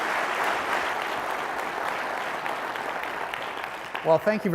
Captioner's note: applause